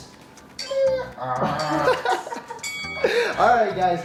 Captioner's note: imitating donkey braying